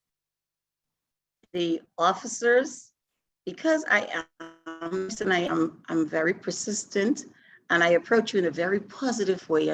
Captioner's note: audio Distortion